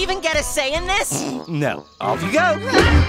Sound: snickers

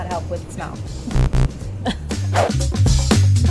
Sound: buzzer dings; air whooshing

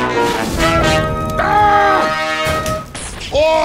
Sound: heavy_screaming.mp3

